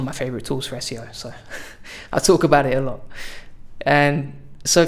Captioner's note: laughs